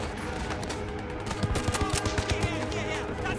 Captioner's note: speaking German